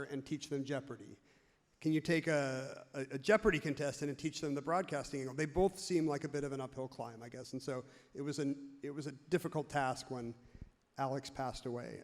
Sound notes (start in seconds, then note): none